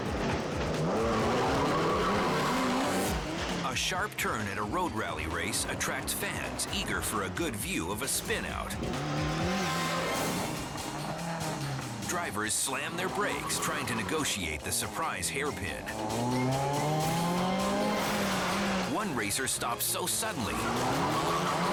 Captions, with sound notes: (engine revving) (tires screeching) A sharp turn at a road rally race attracts fans eager for a good view of a spin out. (engines revving) Drivers slam their brakes trying to negotiate the surprise hairpin. One racer stops so suddenly,